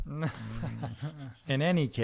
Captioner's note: laughter